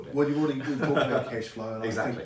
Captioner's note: laughs